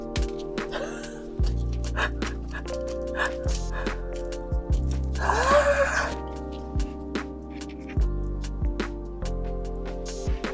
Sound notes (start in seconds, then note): 1.8 laughs like I'm losing my mind, which I am; 5.2 screams softly